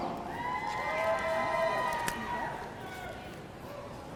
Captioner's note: audience cheering